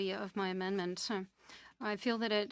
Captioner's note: speaking French